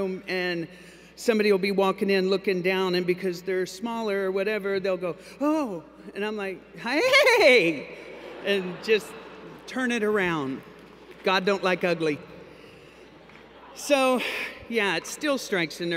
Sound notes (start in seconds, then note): 8.0 laughter